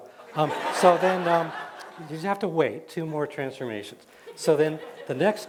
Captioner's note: laughter